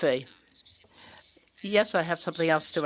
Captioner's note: speaking French